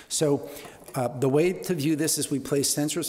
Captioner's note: none